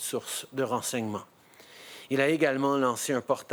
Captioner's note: speaking in French